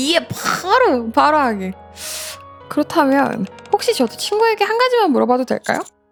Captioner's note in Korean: 콧방귀